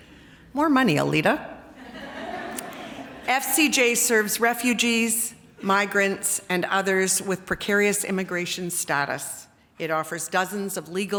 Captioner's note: laughter